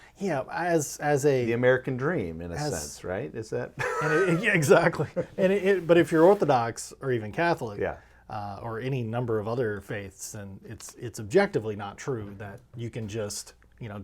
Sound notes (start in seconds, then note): 3.8 laughing